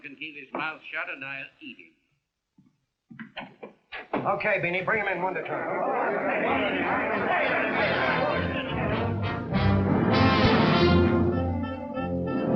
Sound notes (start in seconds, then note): 4.9 angry chattering; 7.6 whimsical big band music